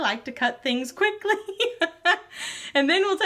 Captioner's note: laughs